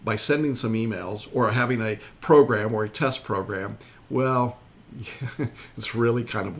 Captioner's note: chuckles